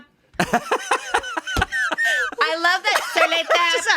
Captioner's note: everyone laughs